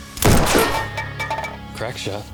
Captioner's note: gunshot banging; tin can rattling